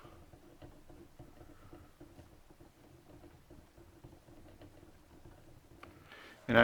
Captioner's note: writing